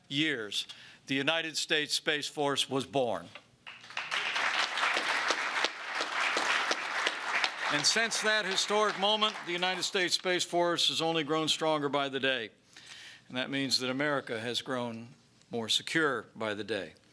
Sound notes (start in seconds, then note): 3.6 applause